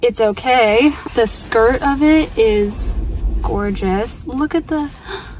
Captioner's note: gasp